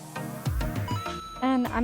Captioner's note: ba ding!